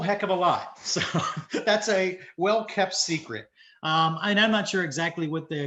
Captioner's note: chuckles